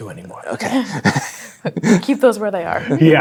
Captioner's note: players laughing